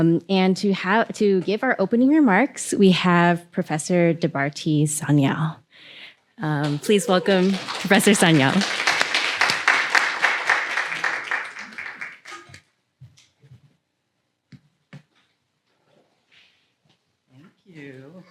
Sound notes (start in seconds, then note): 8.8 applause